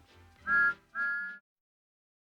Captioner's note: toots